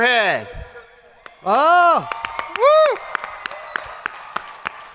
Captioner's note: crowd applauding